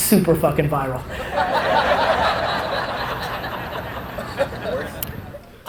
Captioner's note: audience laughter